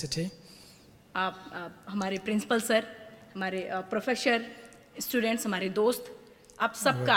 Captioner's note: speaks in foreign language